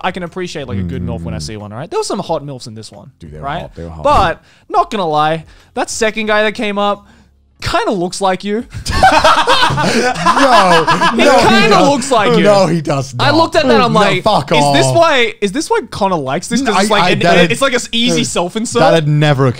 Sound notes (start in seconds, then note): 10.9 both laugh